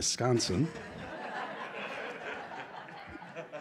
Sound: laughter

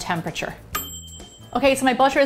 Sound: ding!

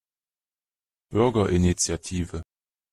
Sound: fast Pronunciation

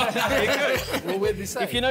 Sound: all laughing

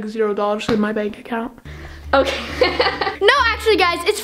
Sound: laughs

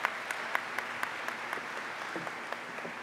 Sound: applause

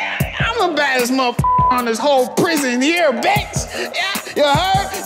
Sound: beep

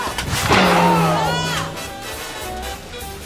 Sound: metal clanging

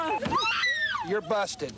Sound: screams

